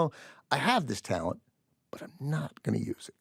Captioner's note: soft voice